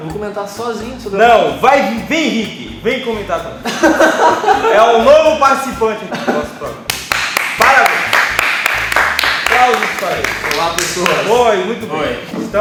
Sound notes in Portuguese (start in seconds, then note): 3.6 Risos; 6.8 Salva de Palmas